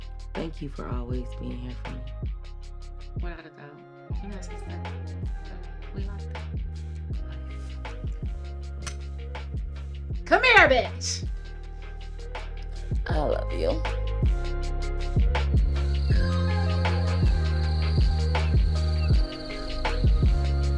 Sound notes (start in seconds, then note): 9.4 glasses clink; 15.1 light upbeat music